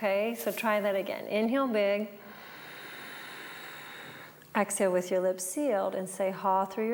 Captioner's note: breathes